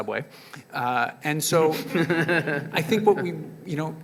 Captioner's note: panelists and audience members chuckle